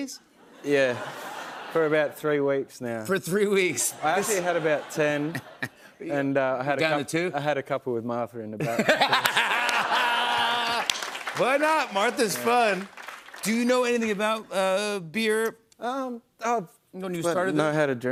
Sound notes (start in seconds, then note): 8.7 laughs